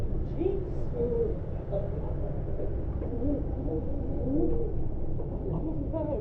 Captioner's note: man mimics Patrick